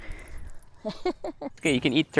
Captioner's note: laughs